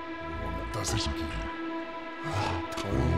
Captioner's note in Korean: 뒤틀린 목소리